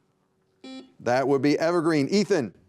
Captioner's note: buzzer beeping